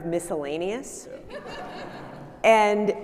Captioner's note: audience laughing